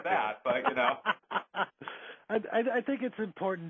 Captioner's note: laughing